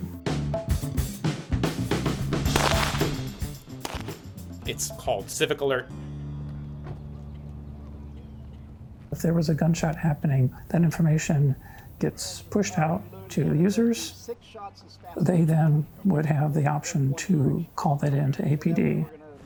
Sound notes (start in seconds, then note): 0.0 upbeat funk music; 2.4 gun firing